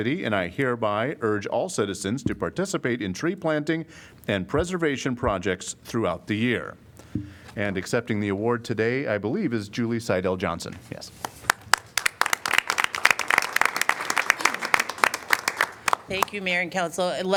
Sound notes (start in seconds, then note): 11.2 applause